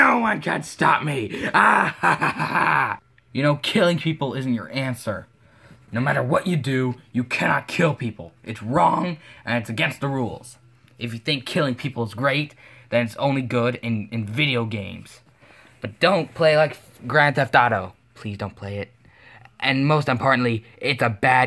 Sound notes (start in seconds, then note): 1.4 evil laughter